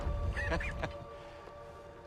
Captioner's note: laughs